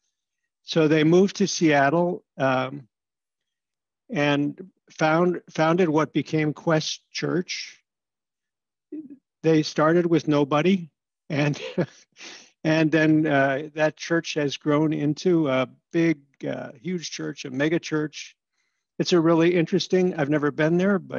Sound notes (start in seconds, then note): 11.5 laughter